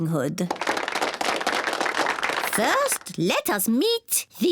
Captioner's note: applause